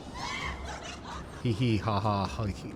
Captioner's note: giggling